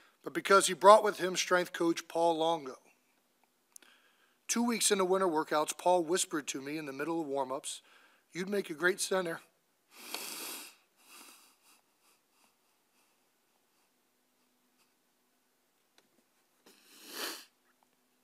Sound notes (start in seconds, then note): 10.8 soft whimpers